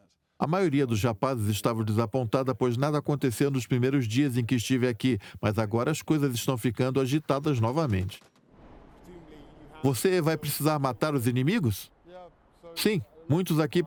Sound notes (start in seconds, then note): 8.2 gun firing; 8.7 voiceover